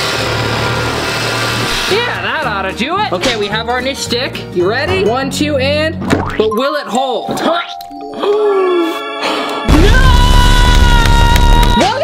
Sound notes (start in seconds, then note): 0.0 sawing; 6.0 squishing; 8.1 gasps; 10.0 hitting